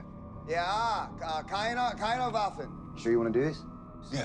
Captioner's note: Sinclair speaking in foreign language